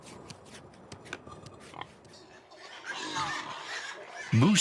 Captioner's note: pigs squealing